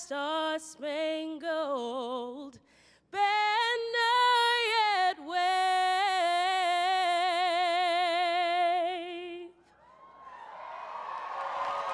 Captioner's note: applause